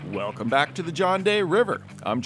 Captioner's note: water rushing